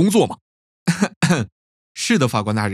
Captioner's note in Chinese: 咳嗽